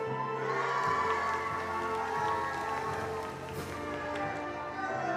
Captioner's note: attendees applauding